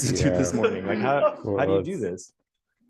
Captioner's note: laughter